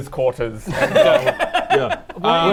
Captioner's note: laughs